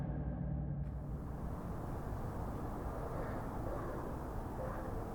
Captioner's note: wind whooshing